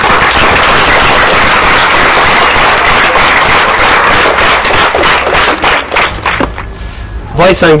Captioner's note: clapping